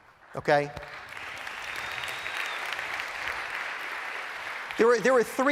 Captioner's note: applause